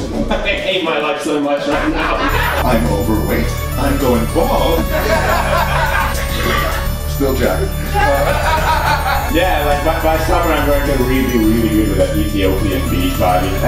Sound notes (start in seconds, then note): 0.0 belabored singing; 6.2 belch